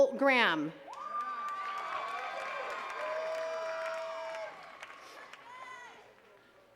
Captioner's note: attendees cheering and clapping